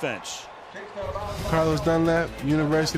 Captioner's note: pa announcement